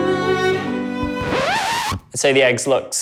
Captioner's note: record scratching